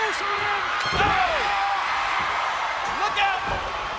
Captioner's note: audience cheers